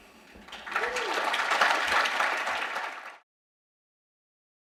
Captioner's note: applause